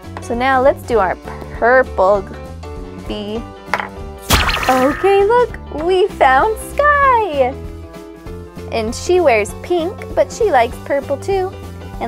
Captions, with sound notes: So now let's do our purple bee. (popping) Okay look, we found Sky! And she wears pink, but she likes purple too.